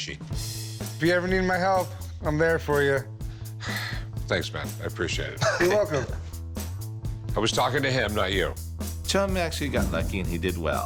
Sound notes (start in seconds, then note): 3.6 sighs; 5.4 laughs